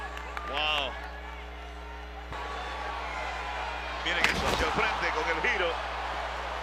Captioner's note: applause